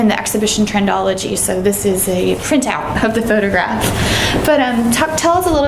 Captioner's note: laughs